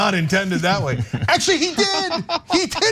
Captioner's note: laugh